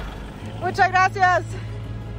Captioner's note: in Spanish